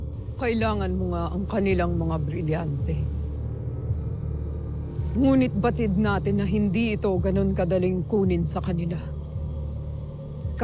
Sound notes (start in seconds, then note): none